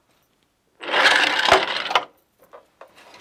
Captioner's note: noise of shuttle moving